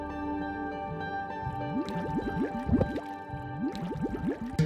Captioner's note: bubbling gurgling